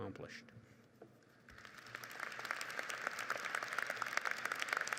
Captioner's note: crowd applauds